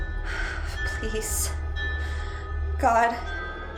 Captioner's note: eerie music; deep breath; eerie music